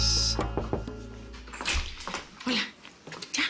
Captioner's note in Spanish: Llaman a la puerta